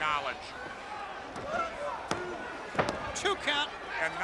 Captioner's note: crowd chatter